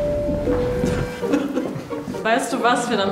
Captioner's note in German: Lachen